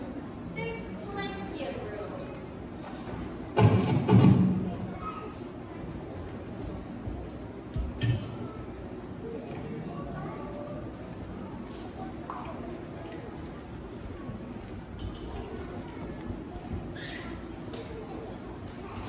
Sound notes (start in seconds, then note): 2.1 general room noise